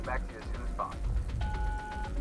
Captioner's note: phone beeps